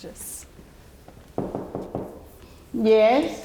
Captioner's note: knocking